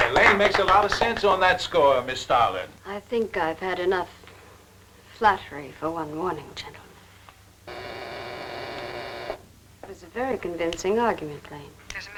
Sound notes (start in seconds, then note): 7.6 buzzing